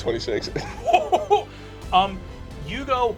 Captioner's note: laughing